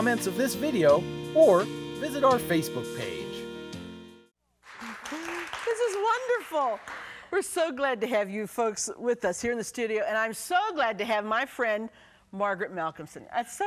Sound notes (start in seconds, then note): 4.6 clapping